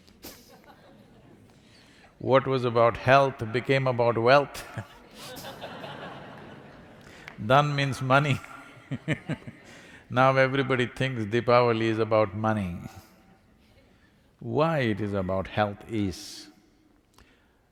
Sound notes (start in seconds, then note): 0.3 laughter; 4.5 laughter; 8.4 laughs